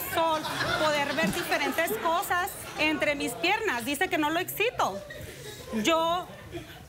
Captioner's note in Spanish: risas